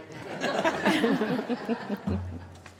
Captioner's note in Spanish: risas